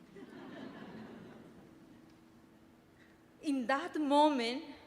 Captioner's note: audience laughing